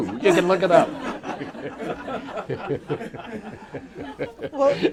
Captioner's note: bob scheiffer laughs